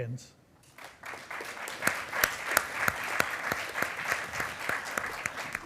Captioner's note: attendees applauding